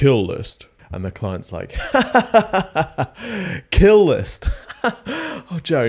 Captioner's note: laughs